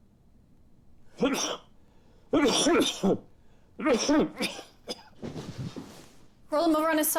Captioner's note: Thomas thumping; Thomas coughing